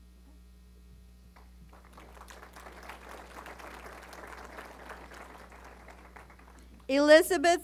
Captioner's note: applause